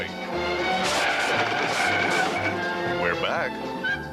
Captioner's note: brakes squealing